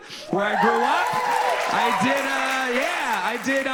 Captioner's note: audience cheers and applauds